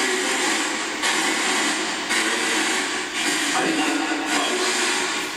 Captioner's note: racketing noise continues